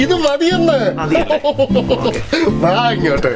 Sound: Chacko giggles

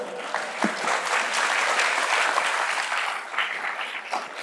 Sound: audience laughing; audience applauding

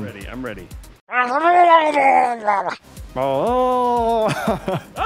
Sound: murloc noises

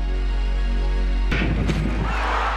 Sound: gunshot

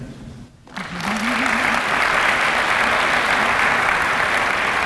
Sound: applause

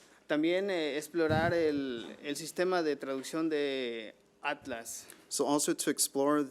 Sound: man speaking foreign language

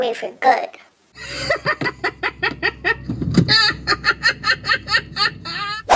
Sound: laughing

